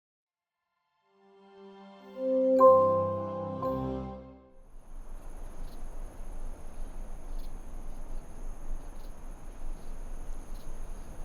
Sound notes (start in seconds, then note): 1.1 gentle music; 4.6 crickets chirping